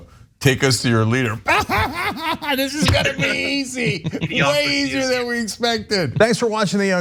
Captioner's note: laugh